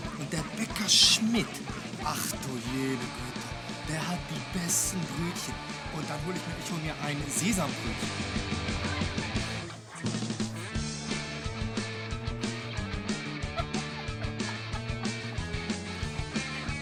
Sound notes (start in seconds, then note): 2.4 speaking foreign language; 8.6 upbeat music; 12.3 girls laughing